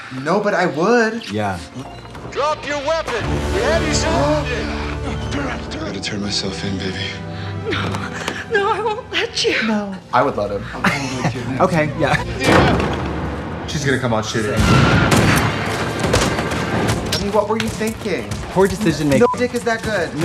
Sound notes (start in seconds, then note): 4.5 Trixie gasps; 10.5 Katya laughs; 14.6 guns firing